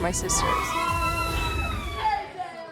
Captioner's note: all squealing excitedly